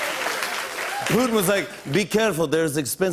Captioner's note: applause; normal voice